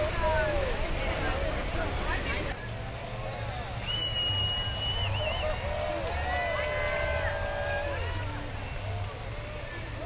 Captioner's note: cheering